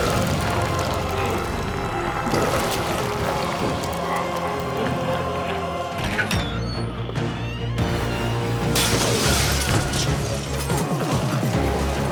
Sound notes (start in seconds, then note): 0.1 intense music; 6.0 door squeaks; 8.7 glass shatters